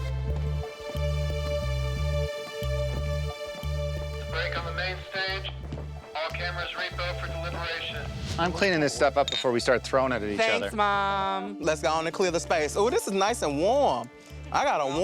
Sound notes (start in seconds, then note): 0.3 tense music; 4.9 voiceover